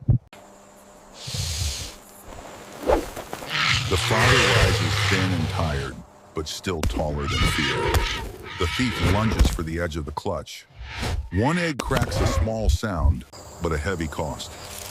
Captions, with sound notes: [snorts] The father rises thin and tired, but still taller than fear. The thief lunges for the edge of the clutch. One egg cracks a small sound, but a heavy cost.